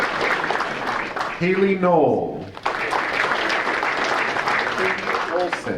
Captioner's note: audience applauding